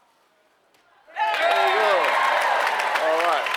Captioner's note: applause